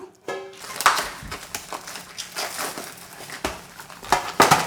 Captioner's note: plastic cracking